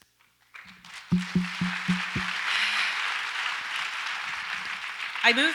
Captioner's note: audience applauds